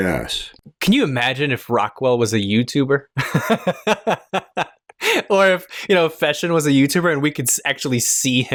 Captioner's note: laughter